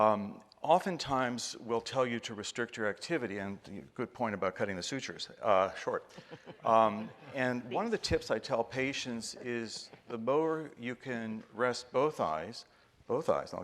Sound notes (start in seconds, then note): 6.0 guests laughing